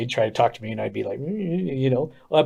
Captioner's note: murmurs